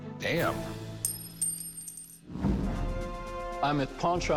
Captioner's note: coin clinks